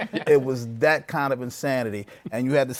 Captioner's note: laughter